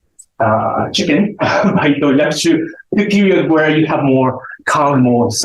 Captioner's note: chuckles